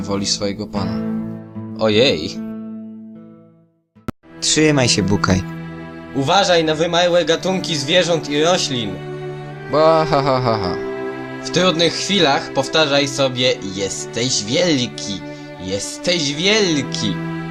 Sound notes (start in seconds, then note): 9.9 nervous giggle